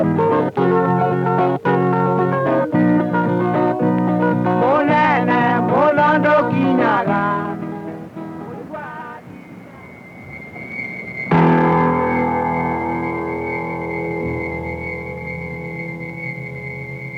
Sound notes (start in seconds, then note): 6.7 music fades out; 8.8 truck engine; 11.3 dramatic musical sting